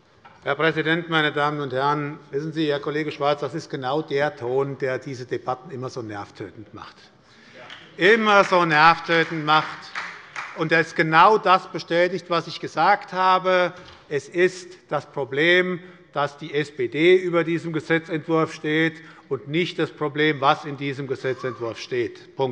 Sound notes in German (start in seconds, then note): 8.1 Beifall bei der SPD